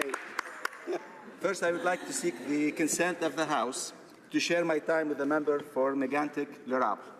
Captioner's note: laughter